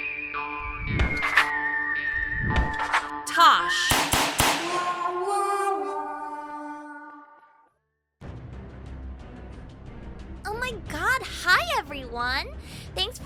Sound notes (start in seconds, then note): 3.8 bang